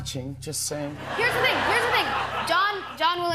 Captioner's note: laughter